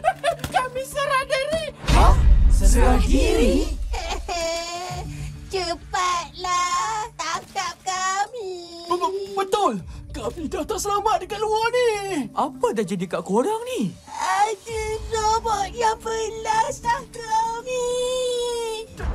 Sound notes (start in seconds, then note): 3.3 sobbing slowly